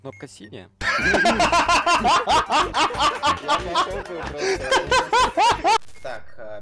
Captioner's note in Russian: звуки похожие на смех